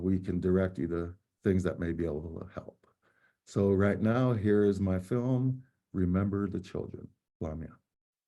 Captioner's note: speaking native language